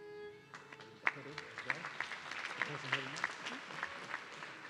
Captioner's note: audience clapping